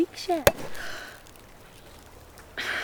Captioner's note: popping; gasping